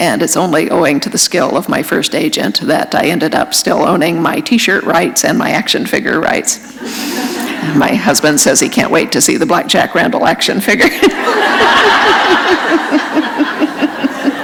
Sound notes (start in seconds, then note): 6.8 laughter; 10.9 laughter